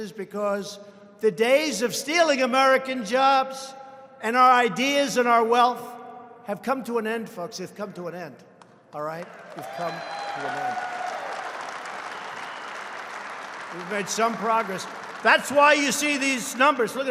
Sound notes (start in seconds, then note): 11.3 applause